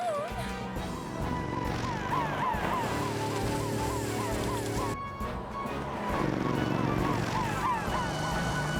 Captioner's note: heroic Music; sirens Blaring